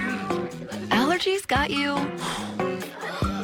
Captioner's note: blows dust